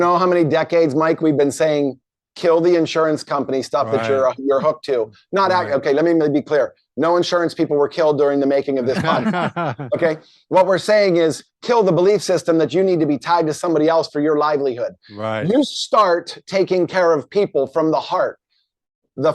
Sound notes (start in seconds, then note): 8.8 laughing